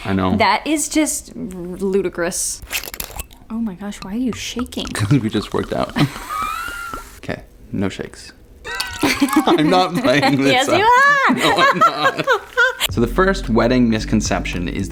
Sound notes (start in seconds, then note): 2.6 bottle swishing open; 6.4 chortling; 8.6 laughing